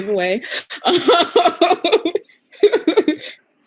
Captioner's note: laughing